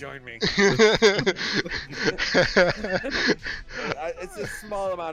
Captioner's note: chuckles; laughter